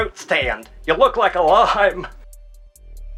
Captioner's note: chuckles